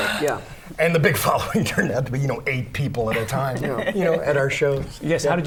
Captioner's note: laughter